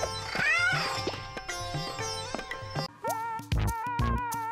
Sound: mystical music; cat meows; funky music

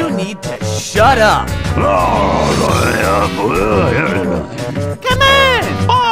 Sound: bowser gibberish

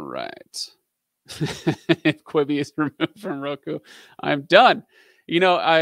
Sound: laughing

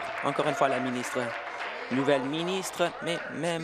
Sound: applause

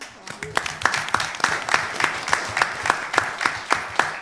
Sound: applause

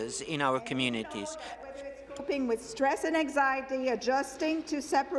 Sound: speaking in French

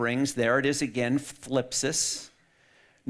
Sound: speaks in foreign language

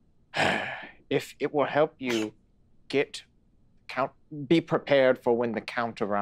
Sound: heavy sigh

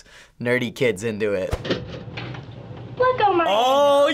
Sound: toaster pops

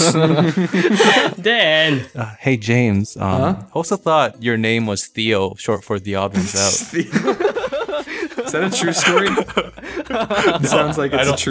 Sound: laughter

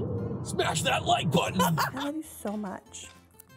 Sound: laughing

